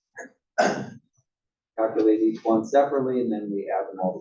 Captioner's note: cough